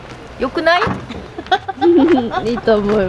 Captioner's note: laughter